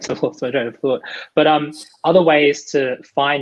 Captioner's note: murmurs